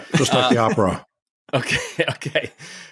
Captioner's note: laughs